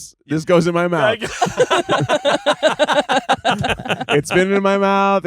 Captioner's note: everyone laughing